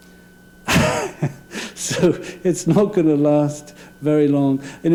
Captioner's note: laugh